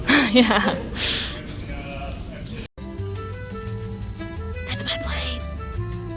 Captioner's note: chuckles nervously; whispering again